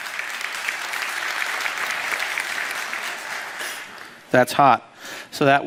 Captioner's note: applause